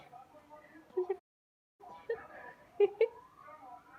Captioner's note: laughs